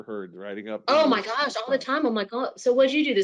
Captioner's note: group chattering